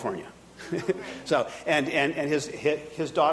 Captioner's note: audience laughing